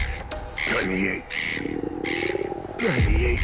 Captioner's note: seagull screeching; stomach rumbling